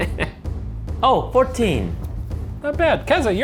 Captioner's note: sighs